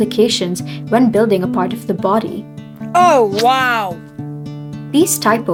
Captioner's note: “Oh wow” sound effect